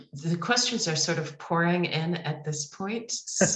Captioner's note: laughs